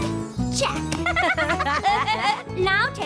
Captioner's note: laughs